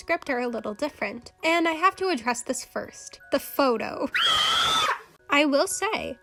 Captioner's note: ahhhhh